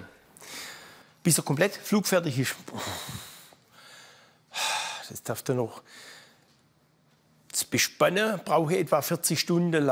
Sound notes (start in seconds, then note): 4.4 he sighs